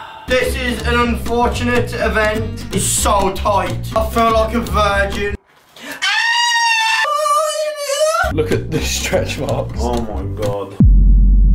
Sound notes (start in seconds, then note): 5.8 squeals